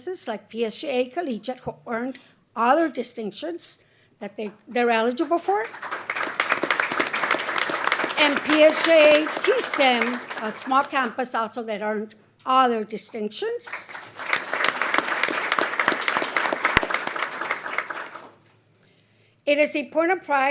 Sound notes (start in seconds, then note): 6.0 applause